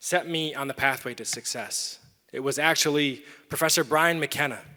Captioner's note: none